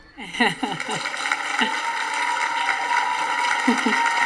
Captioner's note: audience applauding